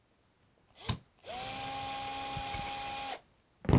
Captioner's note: drilling